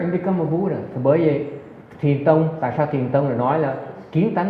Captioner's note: none